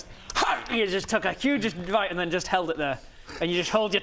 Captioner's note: hrgh